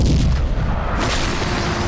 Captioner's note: explosion